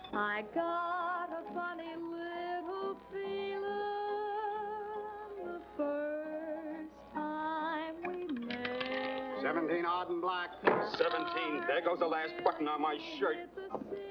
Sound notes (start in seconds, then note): 8.0 roulette ball rattling